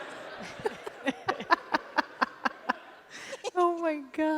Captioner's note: laughter